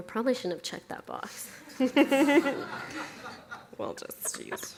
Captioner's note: audience laughs